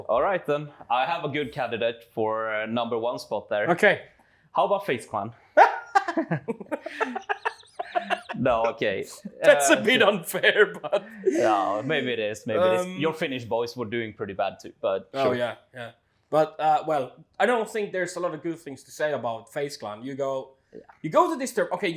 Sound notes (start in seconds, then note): 5.6 laughs